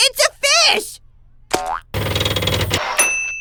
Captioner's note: typewriter taps and dings